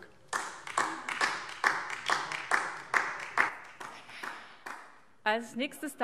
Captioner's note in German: Beifall DIE LINKE